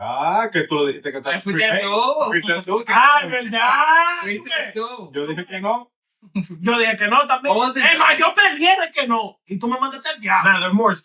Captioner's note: speaking In Foreign Language